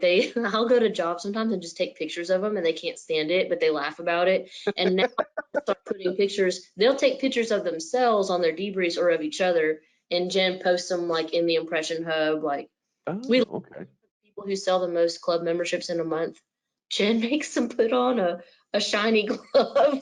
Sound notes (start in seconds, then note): 4.6 laughs